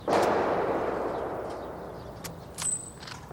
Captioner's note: gun firing